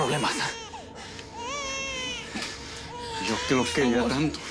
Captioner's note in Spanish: Llanto del bebé